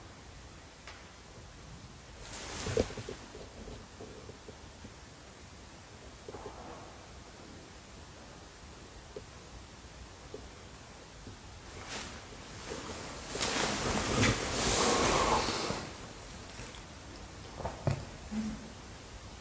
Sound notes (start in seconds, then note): 17.7 sniff